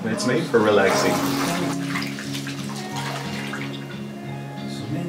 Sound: water splashes

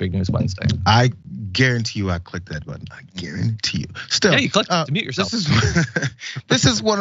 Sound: laugh

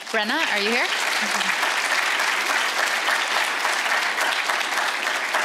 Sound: audience applauds

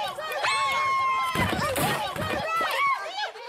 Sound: thumping

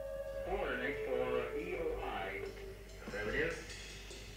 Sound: background radio chatter

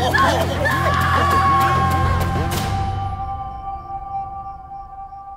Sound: men taunting; Veronica screaming

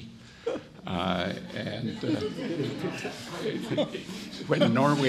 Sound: audience laughs

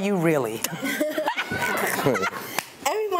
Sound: all laughing

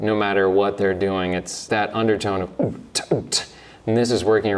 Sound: beatboxes

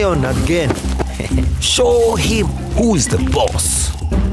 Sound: chuckling

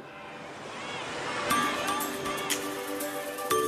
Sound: beach noises

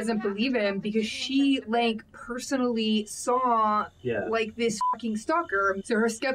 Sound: beep

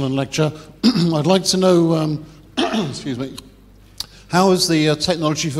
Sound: cough

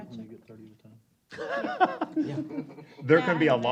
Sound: laughter

